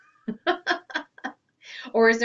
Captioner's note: laughs heartily